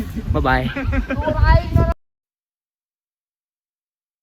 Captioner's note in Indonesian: tertawa